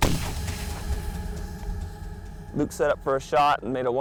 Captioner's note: gunshot